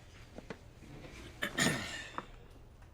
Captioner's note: clears his throat